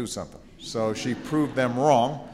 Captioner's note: laughter